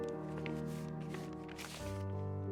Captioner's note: none